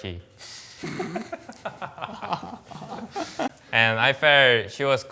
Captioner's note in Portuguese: risos